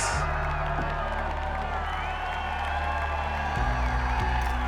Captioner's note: audience cheering